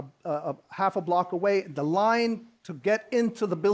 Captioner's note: none